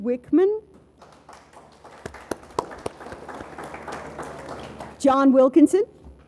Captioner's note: audience applauds